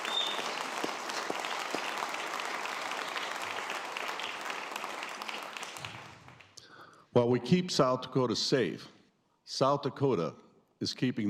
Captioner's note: applause